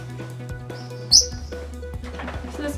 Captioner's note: chirp